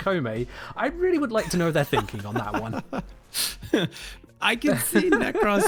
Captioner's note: laughs